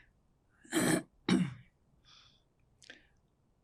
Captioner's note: clears throat